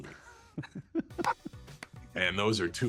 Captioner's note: chuckles